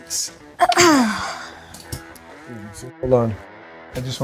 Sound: clears throat

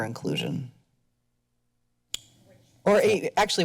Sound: pause

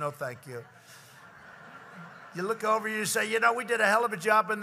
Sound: laughter

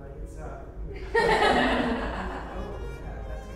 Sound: participants laughing

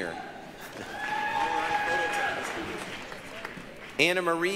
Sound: applause, cheering

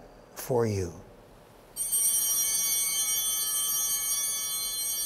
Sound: bell ringing

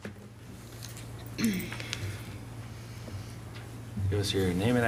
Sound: clears throat

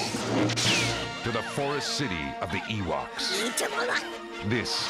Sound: Speaking Ewokese

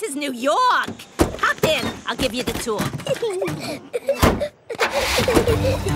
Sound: Peppa and George laughing

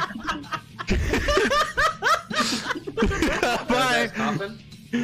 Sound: laughing

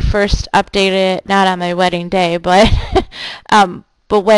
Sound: laughing

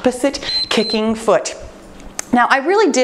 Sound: timer beeps

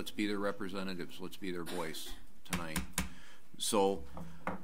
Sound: gavel bangs

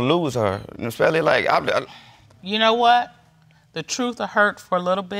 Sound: stammers

